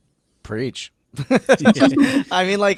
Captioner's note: everyone laughing